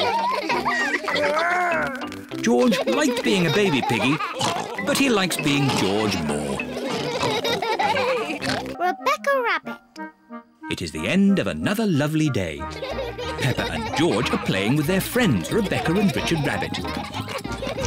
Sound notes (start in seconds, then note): 0.0 all laugh; 7.8 all laugh